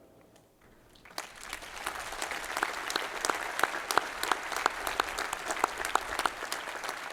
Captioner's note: applause